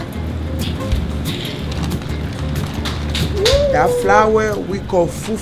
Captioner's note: laughs